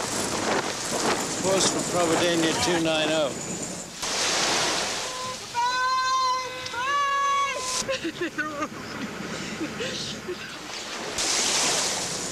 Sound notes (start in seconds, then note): 4.7 shouting; 7.6 crying